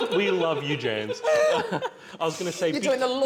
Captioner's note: more laughter